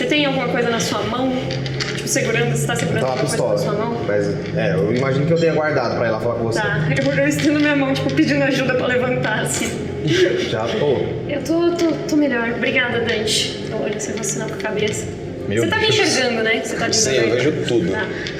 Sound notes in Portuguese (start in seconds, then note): 10.0 risos